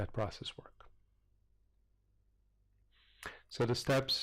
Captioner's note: pause